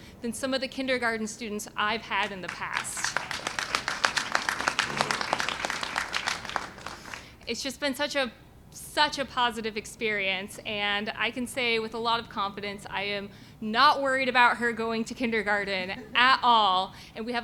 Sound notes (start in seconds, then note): 2.2 applause